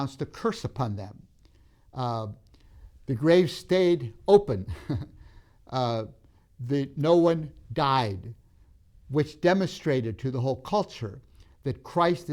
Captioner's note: laughs